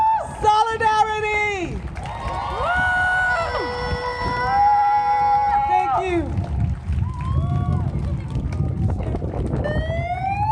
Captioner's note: crowd: wooo! Cheering and applause